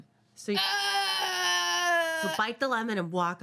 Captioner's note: woman groans